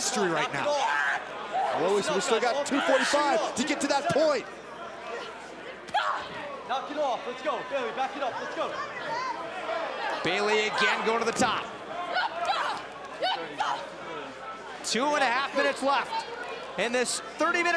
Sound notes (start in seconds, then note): 6.4 crowd chatter